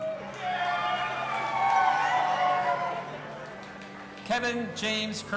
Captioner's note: audience applauding and cheering